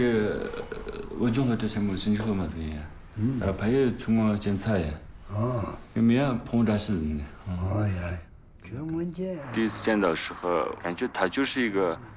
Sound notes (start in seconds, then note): 9.2 speaking Tibetan